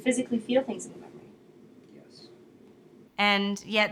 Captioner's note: quietly